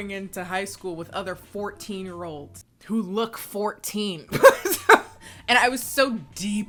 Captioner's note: laughs